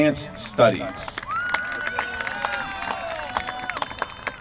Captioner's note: applause